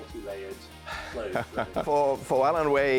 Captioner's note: laughs